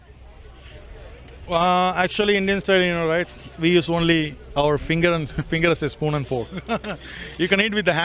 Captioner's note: chuckles